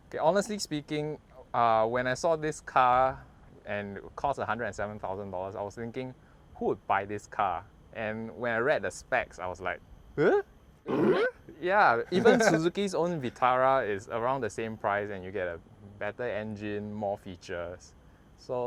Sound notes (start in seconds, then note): 10.8 puzzled grunt